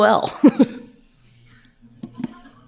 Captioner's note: laughs